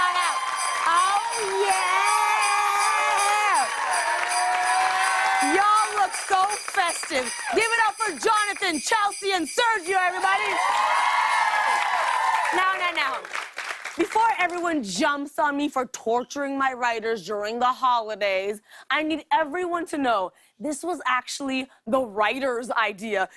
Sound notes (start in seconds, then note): 0.0 cheers and applause; 4.0 sleigh bells jingling; 9.8 cheers and applause